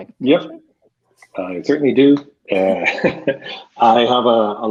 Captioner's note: laughs